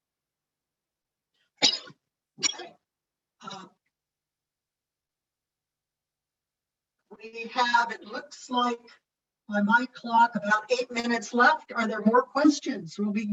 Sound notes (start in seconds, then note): 1.6 coughs